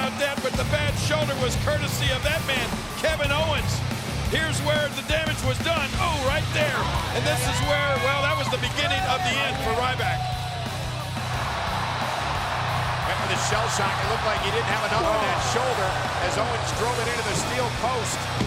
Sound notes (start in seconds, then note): 10.6 audience chattering; 10.7 upbeat music continues; 18.3 audience chattering; 18.3 upbeat music continues